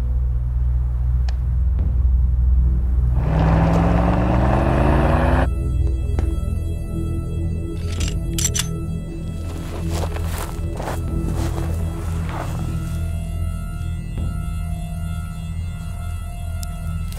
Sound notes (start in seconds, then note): 0.9 button clicks; 3.1 engine revving; 5.0 suspenseful music; 7.8 magazine clacking